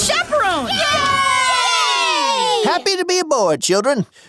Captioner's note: kids cheering